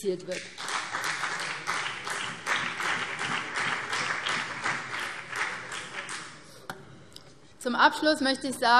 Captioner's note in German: Beifall BÜNDNIS 90/DIE GRÜNEN